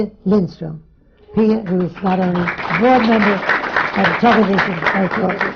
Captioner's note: applause